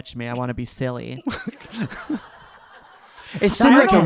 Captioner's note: audience laughing